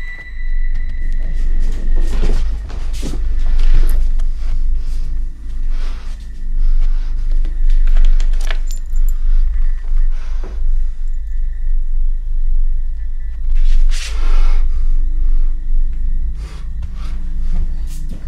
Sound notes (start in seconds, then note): 10.1 heavy breathing; 13.5 heavy breathing continues